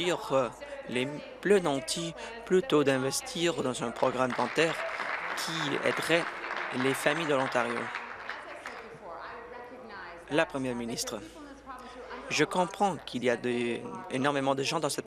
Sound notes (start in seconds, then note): 8.9 applause